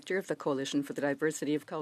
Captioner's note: speaking French